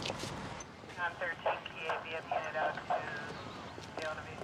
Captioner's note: radio chatter